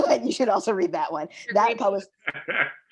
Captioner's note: all laughing